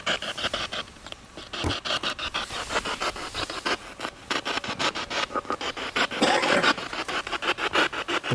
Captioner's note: radio noise from the spirit box